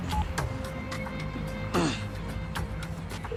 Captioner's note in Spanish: Sonido al marcar el celular